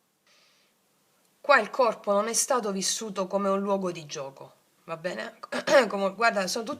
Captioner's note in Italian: schiarire la voce